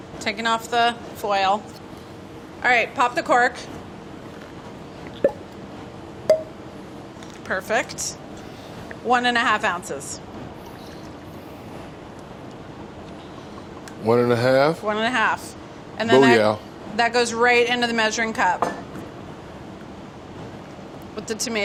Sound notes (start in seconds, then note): 5.1 corks popping